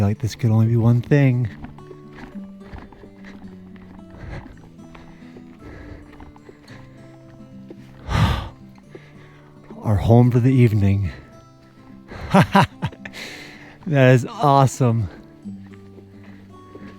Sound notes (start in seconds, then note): 4.3 breathing; 12.1 laughing